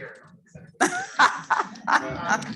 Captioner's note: laughs